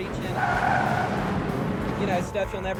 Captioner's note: tires screeching